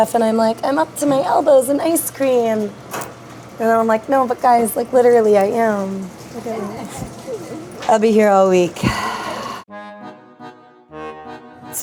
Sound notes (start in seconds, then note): 6.8 employees laughing distantly